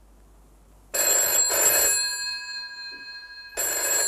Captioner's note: phone ringing